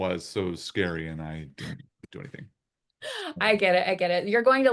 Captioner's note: chuckles